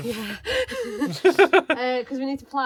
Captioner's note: laughing